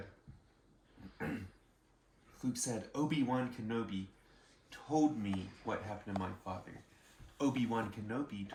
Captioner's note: clears throat